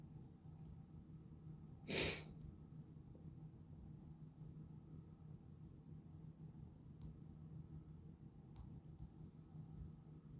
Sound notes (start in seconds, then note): 1.9 sniffle